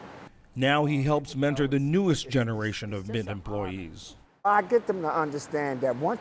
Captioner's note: voice-over